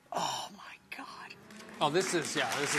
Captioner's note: hands clapping